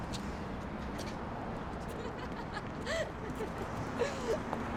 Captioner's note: Bea laughing